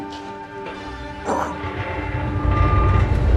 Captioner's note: both grunting